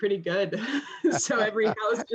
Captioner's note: laughter